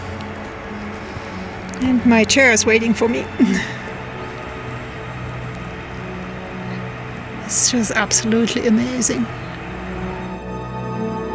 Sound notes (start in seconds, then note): 2.5 laughs; 10.8 quiet music